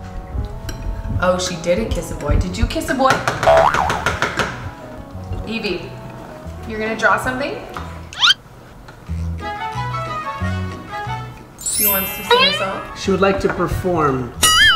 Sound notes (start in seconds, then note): 3.7 knocking